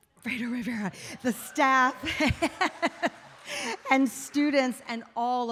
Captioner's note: laughs